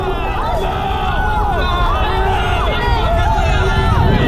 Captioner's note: crowd yelling in anger